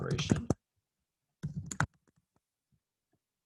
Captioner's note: typing